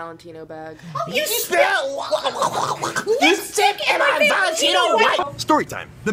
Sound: gurgles

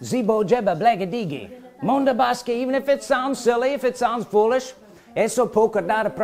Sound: speaking in tongues; speaking in tongures

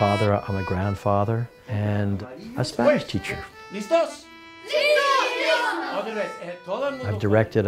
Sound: says a word, students repeat, a few more Spanish words

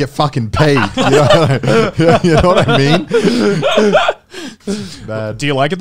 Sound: both chuckling

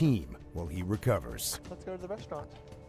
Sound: voiceover

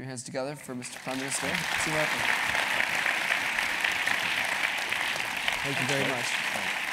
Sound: applause

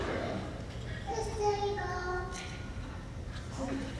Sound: child mumbling

